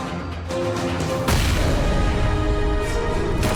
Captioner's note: explosion